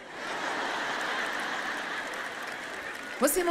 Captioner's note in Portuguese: audiência ri